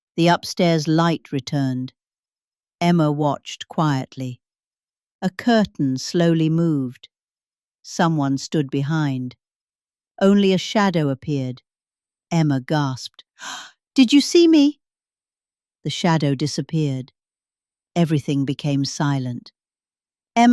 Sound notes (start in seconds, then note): 13.4 gasps